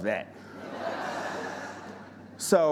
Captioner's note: audience laughing